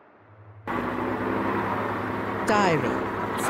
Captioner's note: engine rumbling